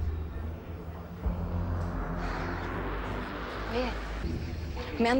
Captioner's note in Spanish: Bullicio